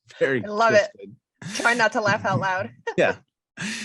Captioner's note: chuckles